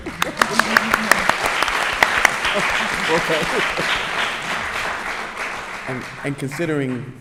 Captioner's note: applause